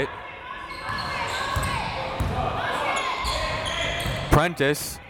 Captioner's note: crowd members shouting